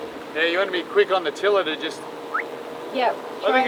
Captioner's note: whistles